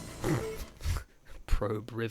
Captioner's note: snort, slight laughter